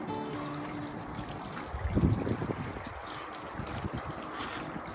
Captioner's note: water Trickling